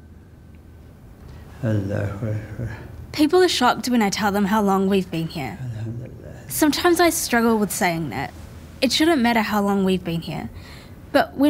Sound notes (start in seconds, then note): 1.5 chanting prayer